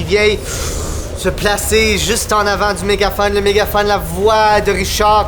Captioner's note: vocalizes wind